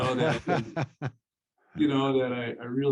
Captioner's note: laughs